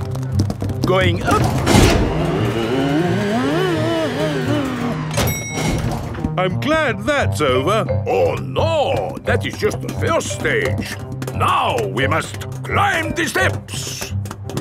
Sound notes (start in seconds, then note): none